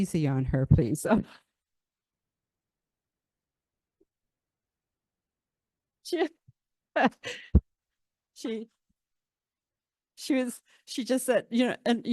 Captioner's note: laughter